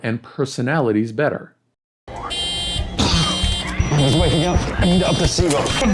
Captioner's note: TV show sound